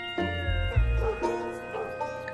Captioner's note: dog barking in distance